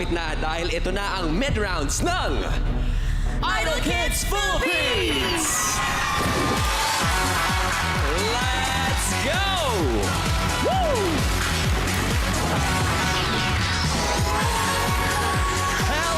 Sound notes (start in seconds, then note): 5.8 audience cheering; 12.1 audience applauding